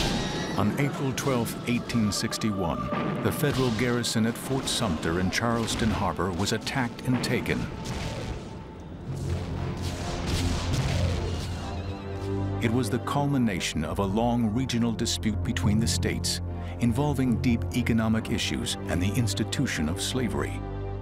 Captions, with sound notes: On April 12, 1861, the federal Garrison at Fort Sumter in Charleston Harbor was attacked and taken. [war sounds] It was the culmination of a long regional dispute between the states involving deep economic issues and the institution of slavery.